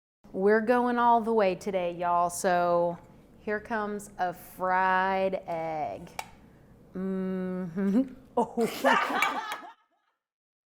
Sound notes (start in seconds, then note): 6.4 hums; 8.4 man laughing